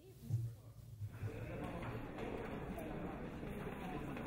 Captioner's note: people talking